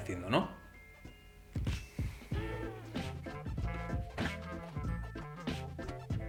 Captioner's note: fridge sounds